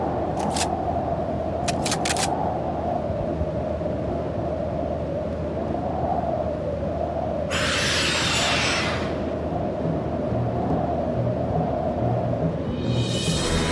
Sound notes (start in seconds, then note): 1.6 gun clicking; 7.5 beast shrieks; 9.8 dramatic orchestral music